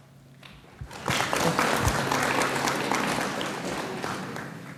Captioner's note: audience applauds